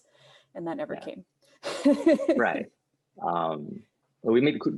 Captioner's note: laughs